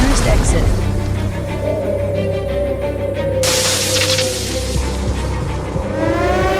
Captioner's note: fearful wind howls as thunder crashes and electric sparks crackle; emergency siren wailing